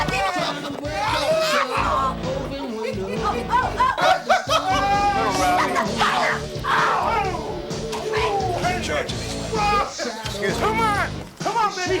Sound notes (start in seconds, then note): 4.3 men laugh